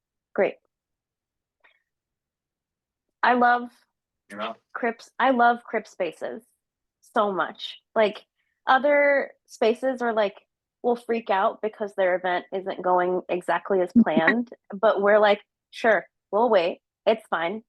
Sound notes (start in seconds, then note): 14.0 laughing